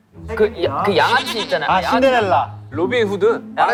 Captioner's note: mispronunciation